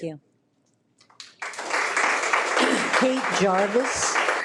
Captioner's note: people applauding